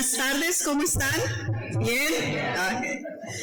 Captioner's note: speaking foreign language